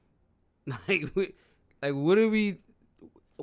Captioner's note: laughs